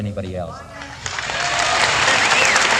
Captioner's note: applause